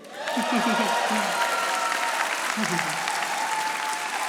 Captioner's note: audience applauding